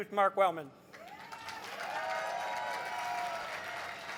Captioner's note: crowd cheers